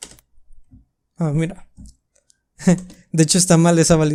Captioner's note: laughs